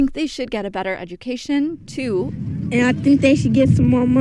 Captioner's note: soundbite of archived recording